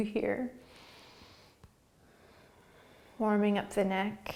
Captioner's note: breathing